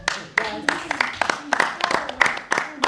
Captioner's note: applause